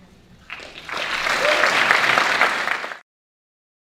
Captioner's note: audience Clapping